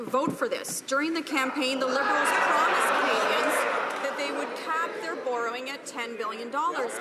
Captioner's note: some Applause